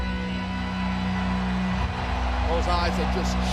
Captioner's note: crowd cheering